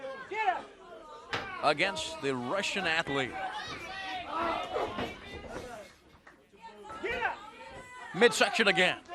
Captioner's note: crowd chatter